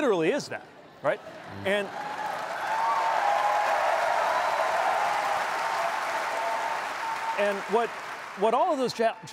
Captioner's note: cheers and applause